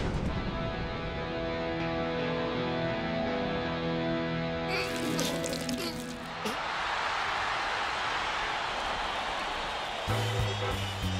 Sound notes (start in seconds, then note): 4.7 whimpers; 6.6 cheers and applause